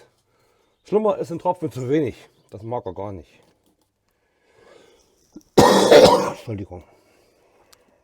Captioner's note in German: husten